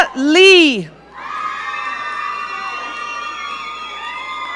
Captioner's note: audience cheering